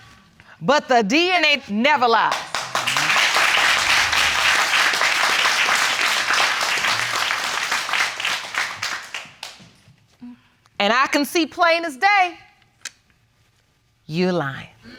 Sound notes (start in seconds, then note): 2.6 audience applauding